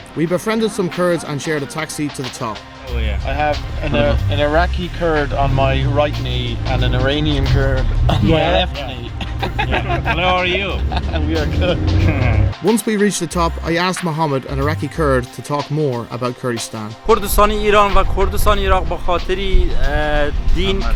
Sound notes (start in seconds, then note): 3.3 car engine sputtering; 8.0 laughing; 11.5 car engine sputtering; 11.5 laughing; 17.2 speaking foreign language